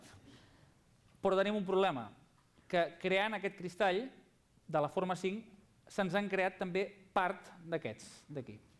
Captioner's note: non-english speech